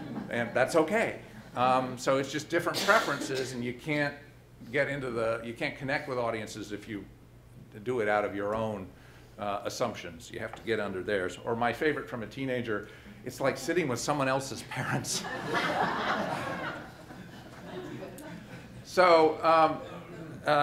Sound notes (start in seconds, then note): 15.1 audience laughing